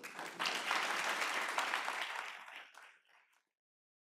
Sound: applause

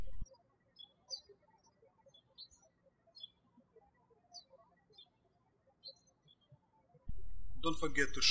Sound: birds chirping

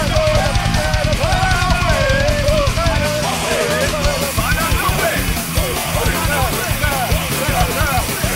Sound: group chanting

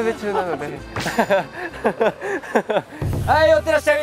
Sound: haha

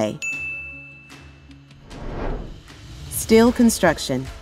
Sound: bell Rings

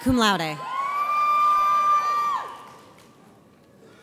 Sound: audience cheers

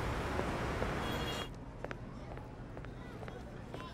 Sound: distant chatter

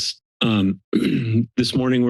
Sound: clears throat

